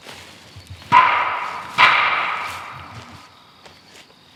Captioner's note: knocking